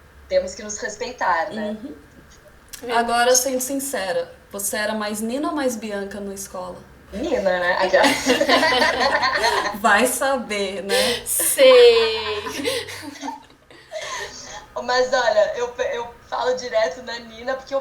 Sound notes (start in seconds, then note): 8.0 laughter